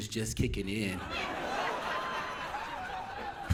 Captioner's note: audience Laughing